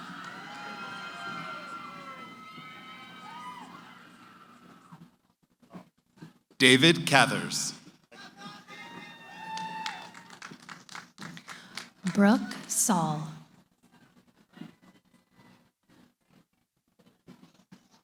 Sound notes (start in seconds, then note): 0.0 cheering; 9.2 applause